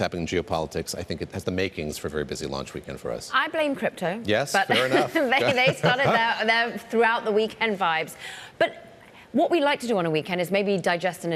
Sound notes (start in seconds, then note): 4.7 laughter